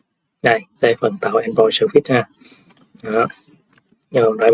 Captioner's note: sniffs